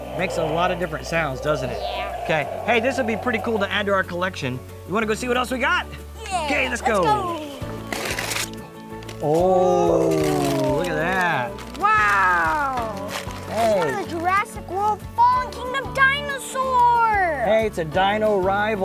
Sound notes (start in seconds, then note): 8.6 paper ripping